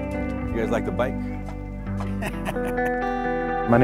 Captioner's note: laughing